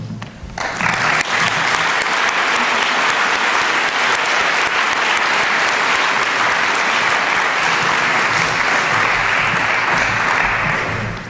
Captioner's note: applause